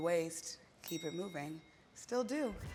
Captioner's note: ding